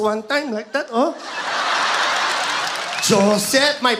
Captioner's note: audience laughs